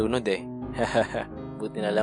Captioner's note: chuckles